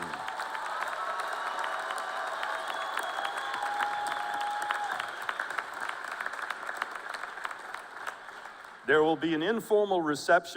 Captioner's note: cheers and applause